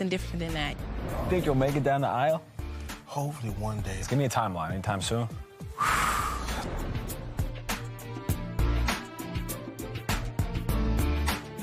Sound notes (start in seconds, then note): 5.7 sighs